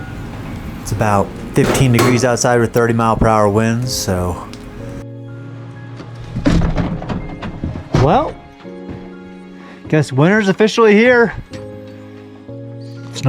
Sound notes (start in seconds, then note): 6.5 door clattering